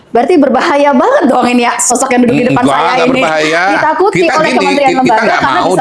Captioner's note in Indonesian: tertawa